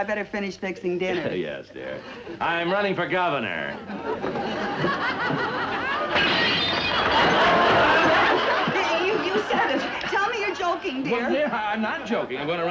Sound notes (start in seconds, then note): 4.8 audience laughs; 6.1 shattered glass